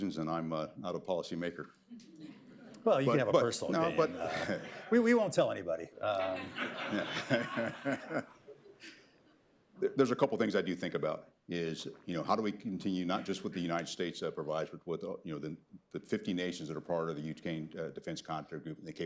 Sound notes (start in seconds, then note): 1.5 laughter; 3.7 laughs; 4.2 laughter; 6.0 laughter